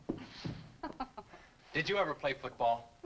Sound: Mrs. Winstead chuckles

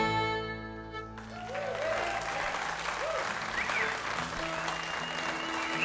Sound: audience cheers and applauds; instruments tuning

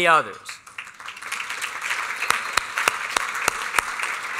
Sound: applause

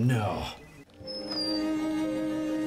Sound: door opens

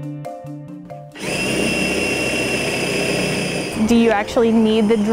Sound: drill whirring

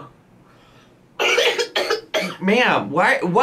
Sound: coughs

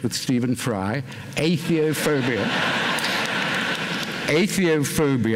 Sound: laughter

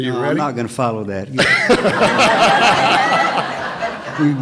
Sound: laughter

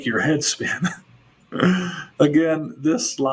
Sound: chuckles

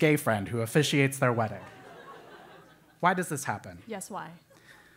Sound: laugh

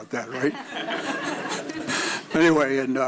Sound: audience laughing

